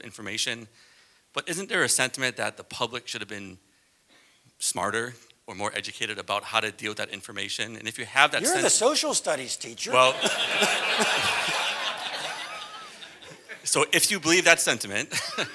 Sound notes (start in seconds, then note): 12.3 laugh